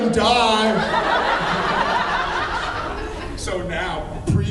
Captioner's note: laughs